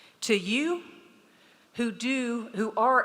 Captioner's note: none